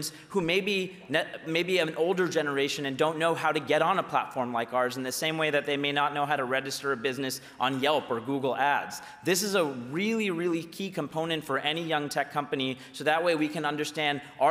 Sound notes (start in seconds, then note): none